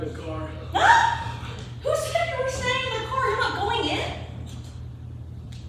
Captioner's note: gasps